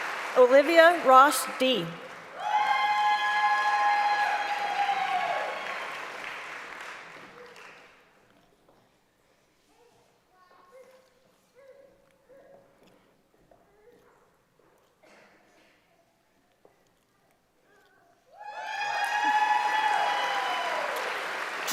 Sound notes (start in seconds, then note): 4.1 applause; 9.2 applause and cheering